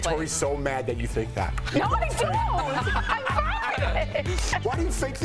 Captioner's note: laughter